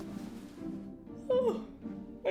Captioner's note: yawns